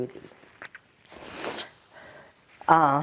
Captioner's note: wiping nose